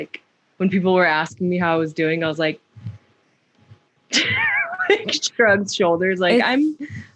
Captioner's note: laughter